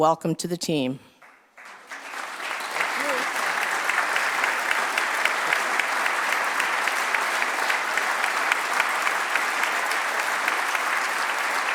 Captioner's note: applause